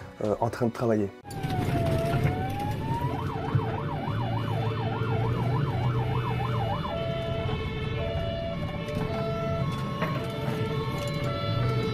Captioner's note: sirens